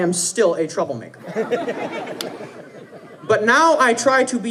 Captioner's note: audience laughing